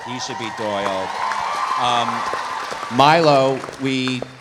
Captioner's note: audience cheering